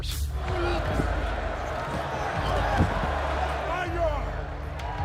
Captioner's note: crowd murmuring